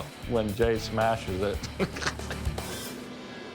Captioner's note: laughs